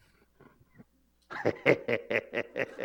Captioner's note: laughs